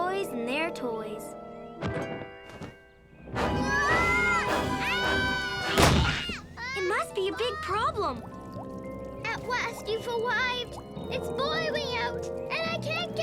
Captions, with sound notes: - Boys and their toys. (tarp flops) (dramatic music) (Max screaming) (door crashes) - It must be a big problem! (water dropping) - At last, you've arrived, it's boiling out and I can't get to my pool!